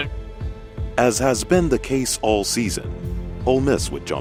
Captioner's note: voiceover